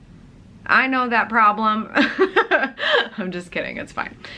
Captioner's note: laughs